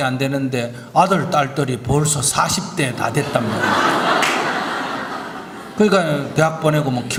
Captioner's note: audience Laughter